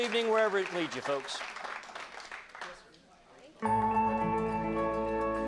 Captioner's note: cheering and applause